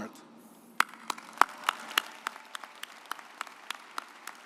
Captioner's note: audience applauds